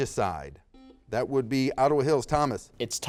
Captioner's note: buzzer beeps